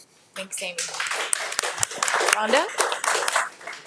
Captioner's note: audience applauding